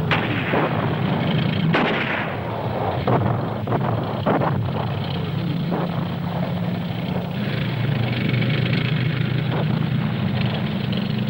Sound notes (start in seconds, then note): 0.0 explosions booming; 7.4 engine humming